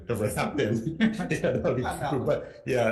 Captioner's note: both chuckling